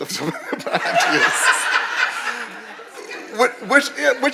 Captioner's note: audience laughing